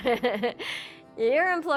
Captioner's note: laughs